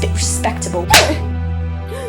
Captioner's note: smack